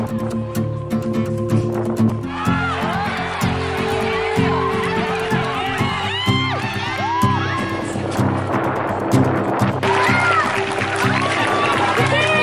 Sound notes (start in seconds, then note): 0.2 guitar music; 2.2 crowd cheering